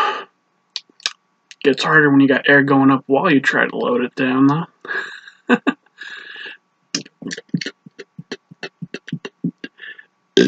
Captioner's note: laughs